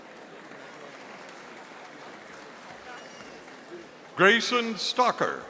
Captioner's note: audience applauding